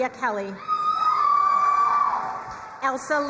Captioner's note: crowd cheering and applauding